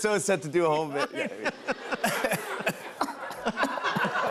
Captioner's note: laughter